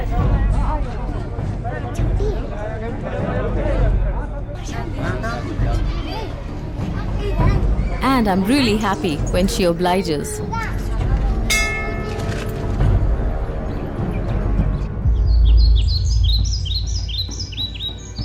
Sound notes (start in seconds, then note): 0.2 indistinct conversation; 11.5 bell chimes; 12.3 birds chirping; 12.3 dramatic music